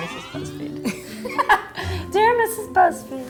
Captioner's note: laughing